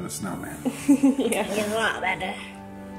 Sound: giggles

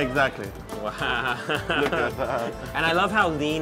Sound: laughing

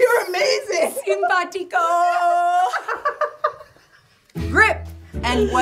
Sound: laughing

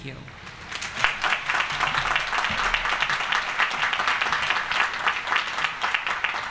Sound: applause

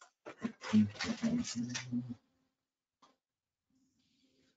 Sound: humming

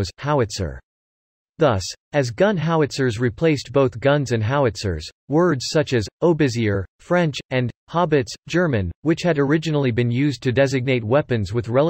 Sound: German

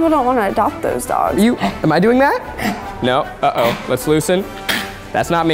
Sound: dog hacking

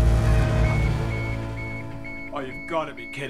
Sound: beeping

